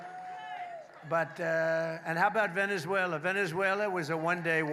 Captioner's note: applause